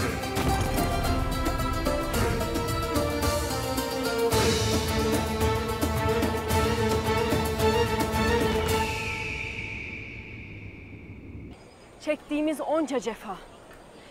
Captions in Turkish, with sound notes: (Müzik - Hareketli) (Kartal ötme sesi) Çektiğimiz onca cefa...